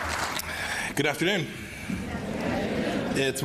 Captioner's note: applause